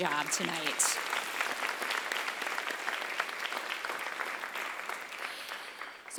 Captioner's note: applause